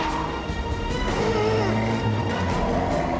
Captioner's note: grunts in frustration